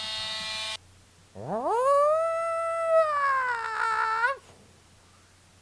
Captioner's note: screeching